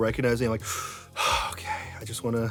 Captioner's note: breathes deeply